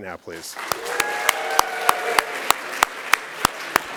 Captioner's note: cheering and applause